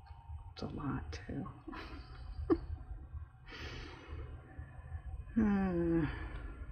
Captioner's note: laughs